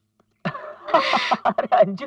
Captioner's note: laughs